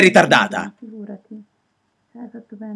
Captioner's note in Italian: si sente la voce di Barbara che parla